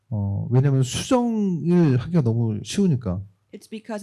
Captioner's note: speaking korean